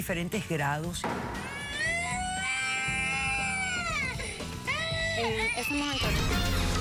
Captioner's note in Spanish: llanto de bebé